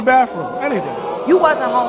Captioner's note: audience exclaims in disbelief